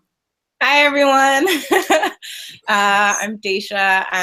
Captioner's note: laughing